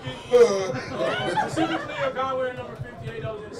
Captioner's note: person chuckles; player makes animated noises